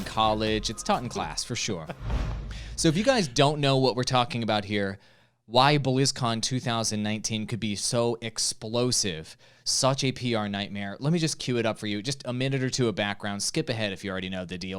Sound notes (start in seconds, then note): 0.4 laughing